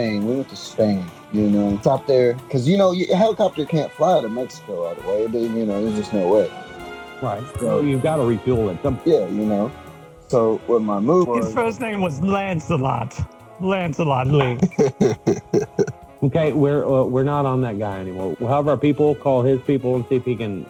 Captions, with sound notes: Because, you know, helicopter can't fly to Mexico, all the way, but you know, there's just no way. Right, so... You've got to refuel it somewhere. Yeah, you know, so what my move is. His first name was Lancelot. Lancelot, Link. [Laughs] Okay, we're not on that guy anymore. Have our people call his people and see if he can get on the show next week. How about that? Does that sound fair?